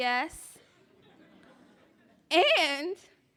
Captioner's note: laughing